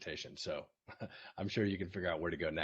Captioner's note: laughs